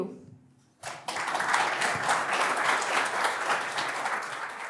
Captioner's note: applause